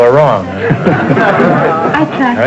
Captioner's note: audience laughter